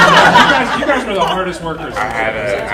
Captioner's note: audience laughing